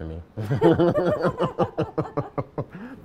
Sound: laughing

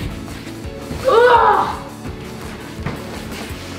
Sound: grunts

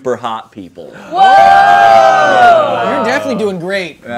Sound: group exclaiming

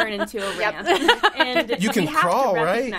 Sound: laughing

